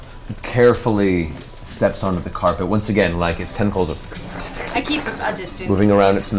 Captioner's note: slithering noises